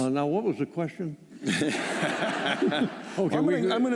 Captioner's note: laughter